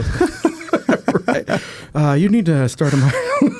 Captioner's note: both laughing